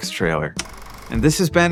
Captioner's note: film roll rattling